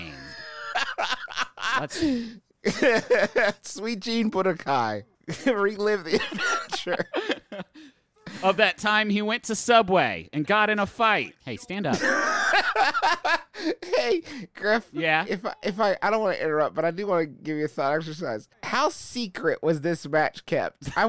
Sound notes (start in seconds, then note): 0.0 laughing; 5.9 laughing; 11.9 laughing